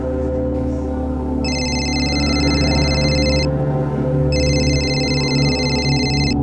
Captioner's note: ringing continues; ringing